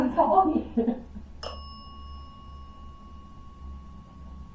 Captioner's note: bell dings